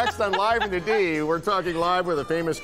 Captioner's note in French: laughter